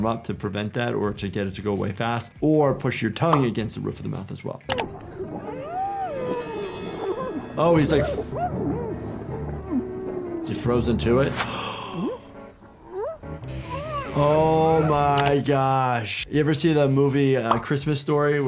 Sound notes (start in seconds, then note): 4.7 click; 11.4 gasps